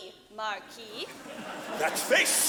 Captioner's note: audience laughing